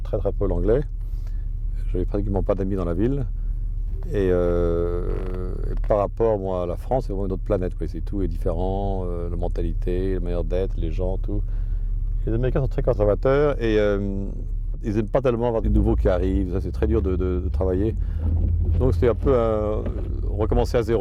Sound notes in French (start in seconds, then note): none